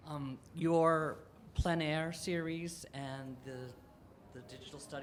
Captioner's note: voiceover